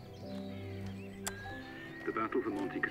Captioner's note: man On Radio